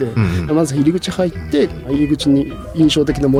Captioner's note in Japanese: 咳払い